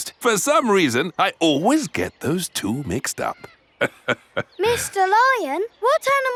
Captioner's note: laughs